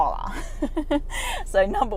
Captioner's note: laughs